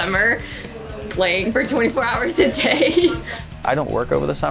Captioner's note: laughing